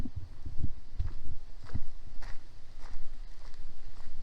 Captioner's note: footsteps